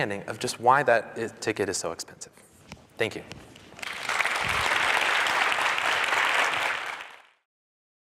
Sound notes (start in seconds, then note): 3.7 audience applause